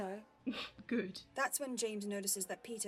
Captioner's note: he snorts